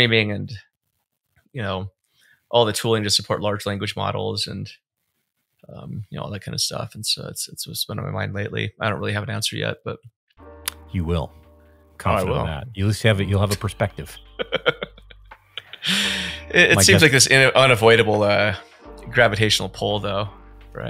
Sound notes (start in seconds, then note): 10.8 mellow music; 13.4 laughing